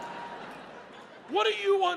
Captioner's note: audience laughs